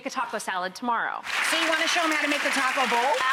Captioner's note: audience claps